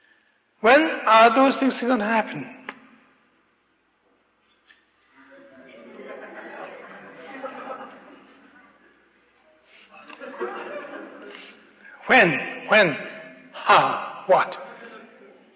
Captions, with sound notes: When are those things going to happen? [Laughter] When!? When!? How!? What!?